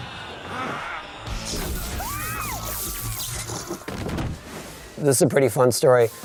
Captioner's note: electrical buzzing; screaming